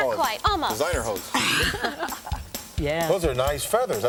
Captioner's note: laugh